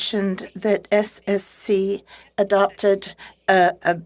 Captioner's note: speaking French